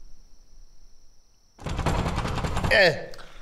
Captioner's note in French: Toc! Toc! Toc!